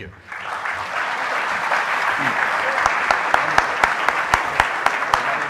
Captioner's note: audience applauding